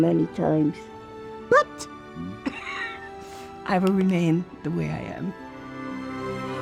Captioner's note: laughs